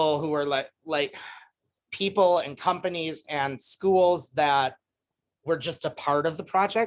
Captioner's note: sigh